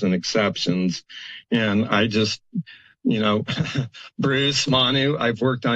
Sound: laughs

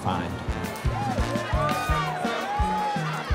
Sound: cheering; festive music

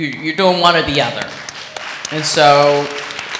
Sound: applause

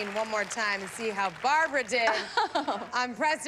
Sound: laughs

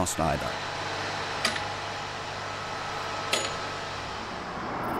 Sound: tools clinking

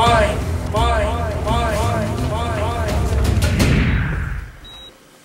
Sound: echoing; soft beeping

